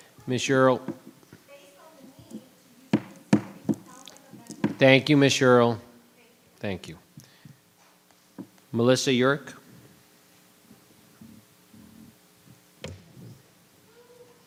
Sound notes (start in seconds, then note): 3.0 gravel bangs